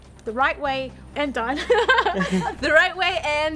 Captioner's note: both laugh